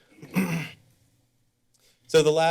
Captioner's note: clears throat